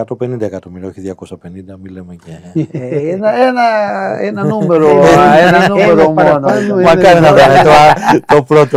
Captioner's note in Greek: γέλια